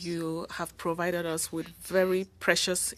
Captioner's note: speaking French